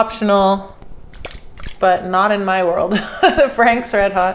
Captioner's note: laughs